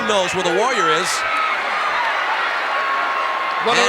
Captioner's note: audience cheering